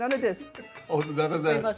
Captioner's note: spoon clinking